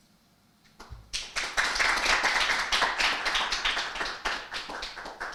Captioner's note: audience applauding